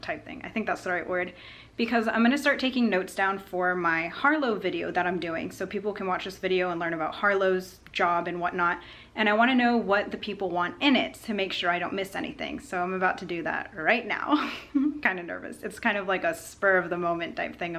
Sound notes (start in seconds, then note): 14.3 laughter